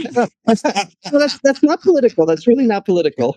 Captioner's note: laughing